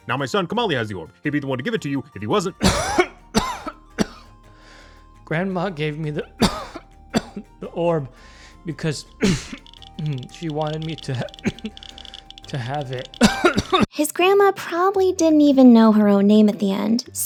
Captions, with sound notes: Now my son Komali has the orb. He'd be the one to give it to you if he wasn't. (coughing) Grandma gave me the orb because she wanted me to have it. His grandma probably didn't even know her own name at the end.